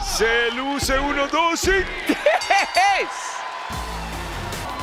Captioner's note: laugh